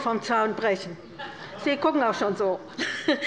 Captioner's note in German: Heiterkeit bei der LINKEN